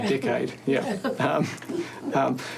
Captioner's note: all laugh